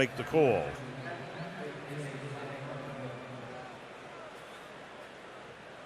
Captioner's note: pa announcement